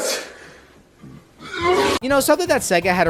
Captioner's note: vomits